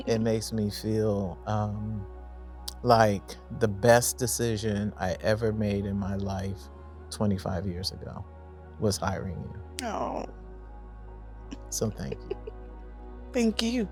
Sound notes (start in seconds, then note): 11.8 giggles